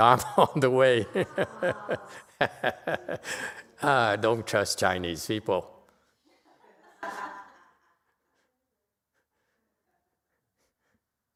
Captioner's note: laughter